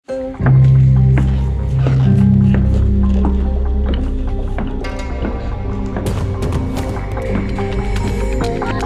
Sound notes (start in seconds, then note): 0.1 dramatic music; 0.2 footsteps